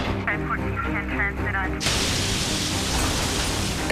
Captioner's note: radio chatter